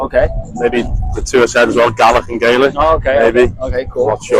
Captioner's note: Scottish